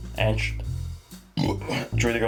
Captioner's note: burp